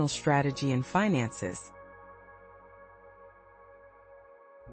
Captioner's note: pause